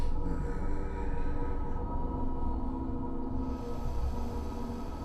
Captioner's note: ghoul breathes heavily